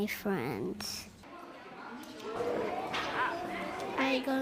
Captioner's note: group talking